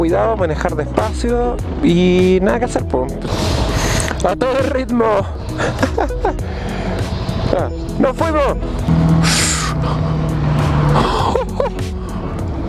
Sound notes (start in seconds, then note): 5.4 laughs